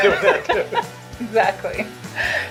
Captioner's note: light laughter